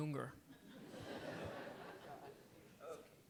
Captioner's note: crowd Laughing